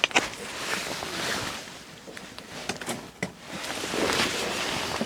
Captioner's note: none